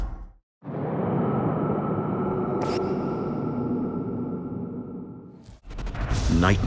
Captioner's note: haunting wind blowing